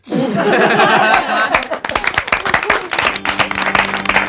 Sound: laughing; organs playing

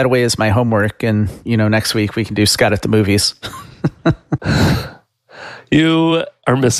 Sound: laughs

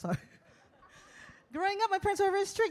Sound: audience laughs

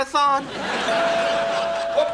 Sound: doorbell ringing

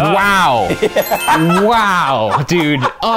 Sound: laughing

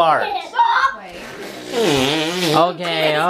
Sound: blowing

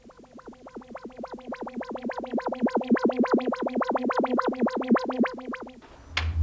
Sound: wobbly sci-fi ship noises

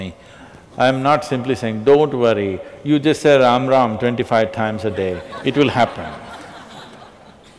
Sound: laughter

